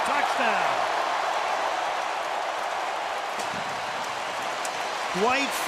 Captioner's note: cheering